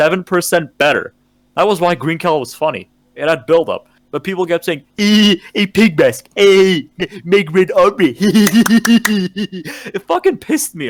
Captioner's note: mocking tone